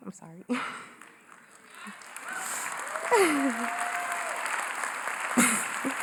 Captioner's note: cheering & Applause